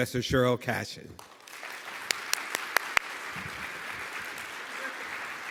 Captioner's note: audience applauding